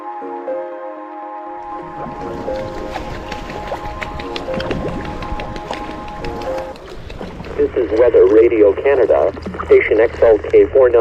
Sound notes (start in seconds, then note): 1.8 birds wings flapping on the water; 7.5 weather report on the radio in English